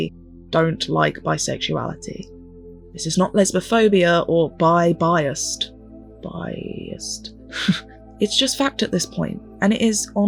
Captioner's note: laughs at the pun